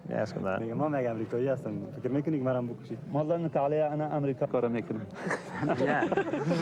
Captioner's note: man speaking in foreign language; men chuckling